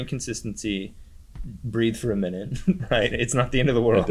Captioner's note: laughs